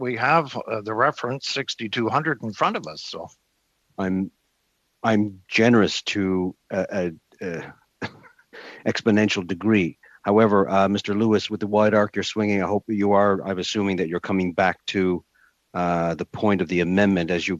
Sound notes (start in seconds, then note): 12.3 chuckles